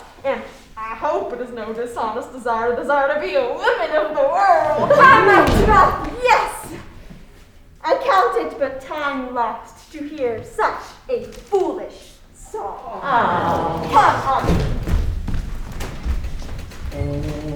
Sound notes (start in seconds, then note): 12.7 crowd awwing